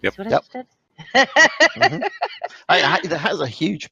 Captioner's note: laughs